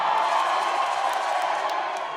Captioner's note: cheers and applause